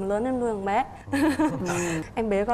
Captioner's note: laughing